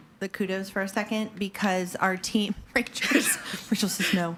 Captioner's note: chuckles